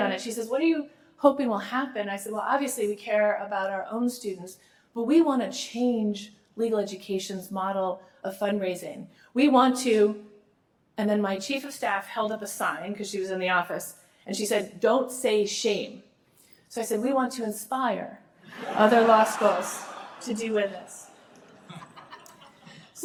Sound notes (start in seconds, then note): 18.5 laughter